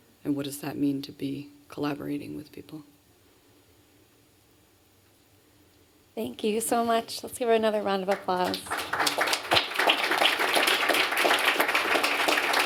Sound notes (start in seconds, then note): 7.9 applause